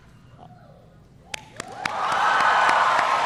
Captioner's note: applause